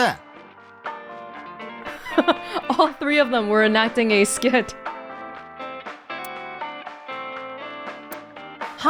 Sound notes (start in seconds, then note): 1.8 chuckles